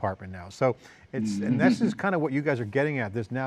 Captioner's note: laughs